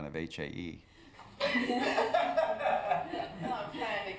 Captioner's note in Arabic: يضحك